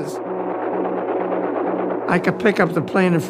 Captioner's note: plane engine roaring